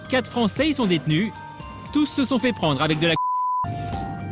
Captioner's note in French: bip